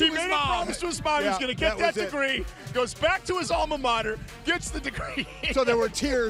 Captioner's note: laughter